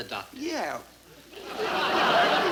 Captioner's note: audience laughing